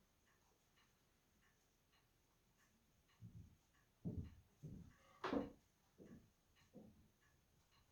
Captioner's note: footsteps above me